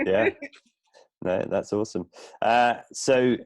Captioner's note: laughs